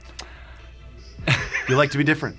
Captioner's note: laughs